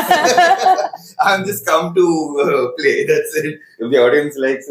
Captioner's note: laughs